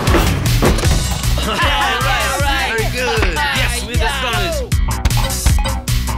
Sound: laughing and cheering

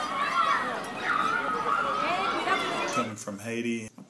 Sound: kids playing outdoors

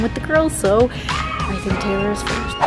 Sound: inhales breath

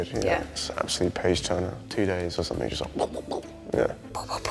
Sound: mimics reading quickly

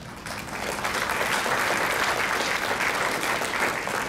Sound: crowd clapping

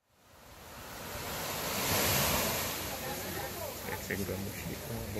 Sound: wave sound

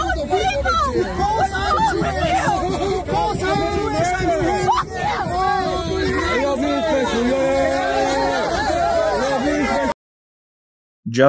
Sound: people talking in video clip

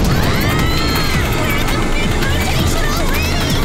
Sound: screaming

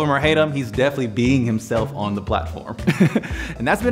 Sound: laughs

